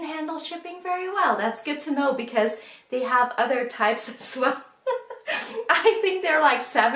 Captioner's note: laughs